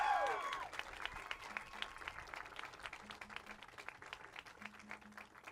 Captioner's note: cheers